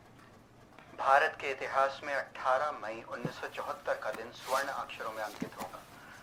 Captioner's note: radio